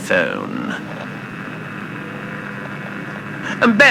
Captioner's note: microphone illuminates with static sound fx